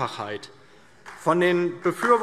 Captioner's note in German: Beifall DIE LINKE und vereinzelt SPD